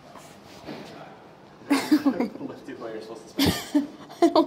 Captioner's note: laughing